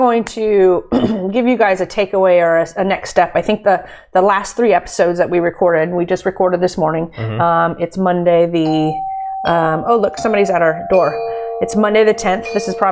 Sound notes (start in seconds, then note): 8.6 doorbell rings